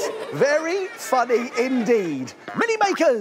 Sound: giggling

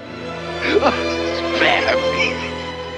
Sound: dramatic music; Scrooge crying

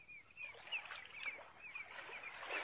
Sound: SFX: seagulls; SFX: waves

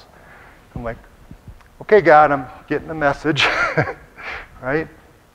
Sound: laughs

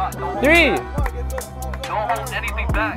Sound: people speaking indistinct

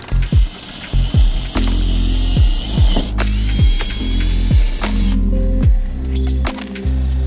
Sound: drill sounds

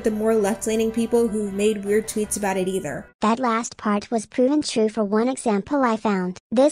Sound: robot voice

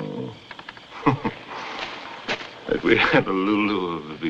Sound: chuckles

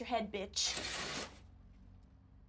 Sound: curtain closes

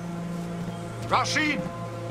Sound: footsteps

